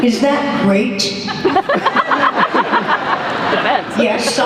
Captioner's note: laughter